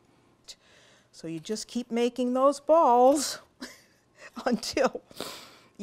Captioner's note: laughter